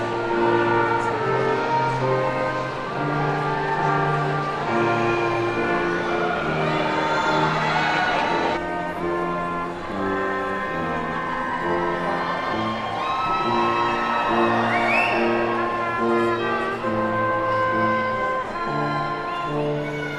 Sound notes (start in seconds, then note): 0.1 poignant music continues; 14.1 attendees whooping